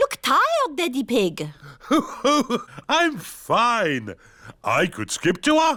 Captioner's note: laughs